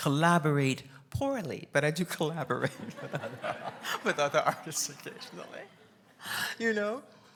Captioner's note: laughs